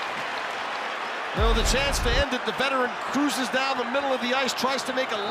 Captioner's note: cheering